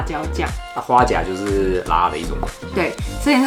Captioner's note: Taiwanese